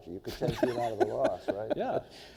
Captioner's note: laughs